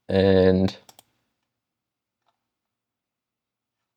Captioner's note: mouse clicking